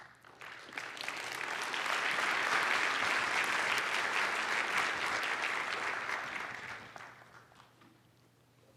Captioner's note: applause